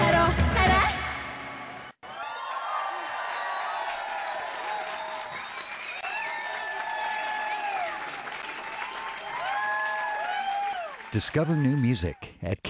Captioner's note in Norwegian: Bifall